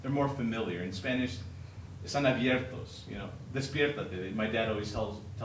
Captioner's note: speaking Spanish